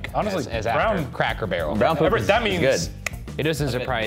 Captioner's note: clicking